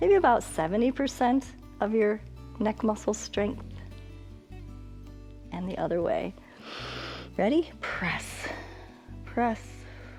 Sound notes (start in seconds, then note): 6.5 inhales